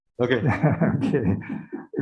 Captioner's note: chuckles